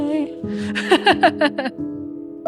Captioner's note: laughs